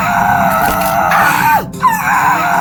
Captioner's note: asher screams; skull scuttler shrieks; liam screams; asher screams